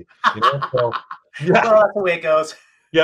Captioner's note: laughing